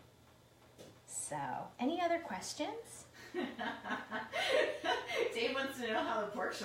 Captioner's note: laughing